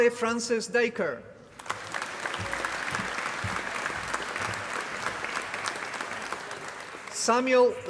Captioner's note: applause